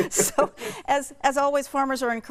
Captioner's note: both laughing